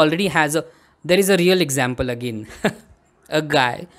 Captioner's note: chuckles